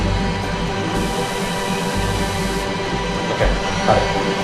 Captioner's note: lights zapping